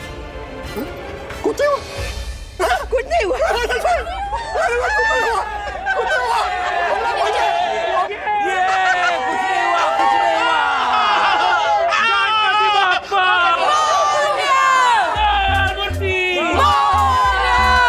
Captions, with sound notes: Nothing happened. Nothing happened. Wow! Nothing happened! [cheering] - Nothing happened! [cheering] - Nothing happened! Oh my Lord Ganapati! Glory to Him! The embodiment of purity! Glory to Him!